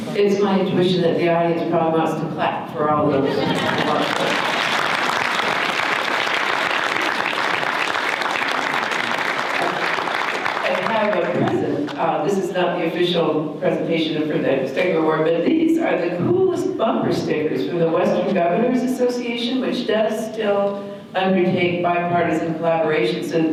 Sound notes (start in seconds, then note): 3.4 audience applause